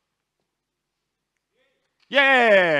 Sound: someone in the audience yells “Yeah”

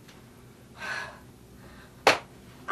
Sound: exhales

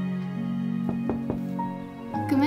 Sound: knocking

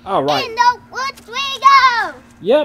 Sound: voiceover

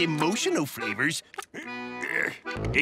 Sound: groaning

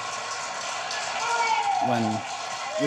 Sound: applause

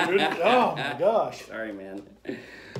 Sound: laughter

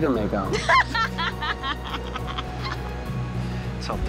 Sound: laughs

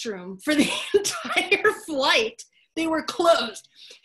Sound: laugh

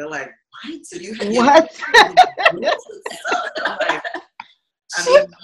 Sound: laughing

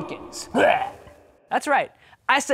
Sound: gagging

